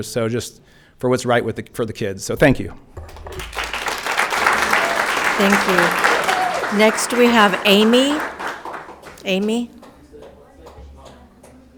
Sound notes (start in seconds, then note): 3.0 audience applauding